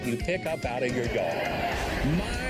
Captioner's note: audience laughing